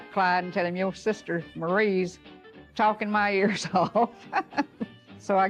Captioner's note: laughs